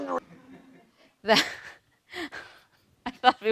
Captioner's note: laughing